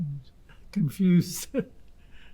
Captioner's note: laughing